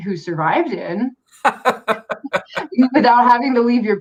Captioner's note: laughs